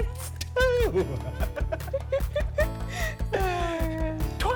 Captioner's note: both laughing